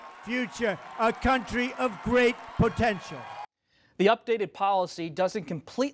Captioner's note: cheers, applause